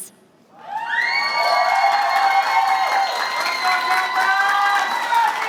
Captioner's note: applause